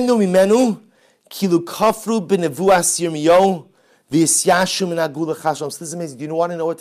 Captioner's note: Hebrew